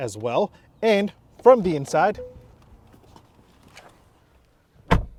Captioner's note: footsteps scuffing; car door thudding